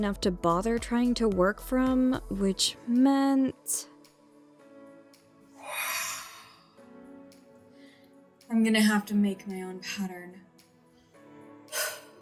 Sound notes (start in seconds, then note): 5.6 deep Sigh